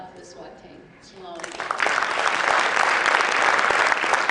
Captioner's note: applause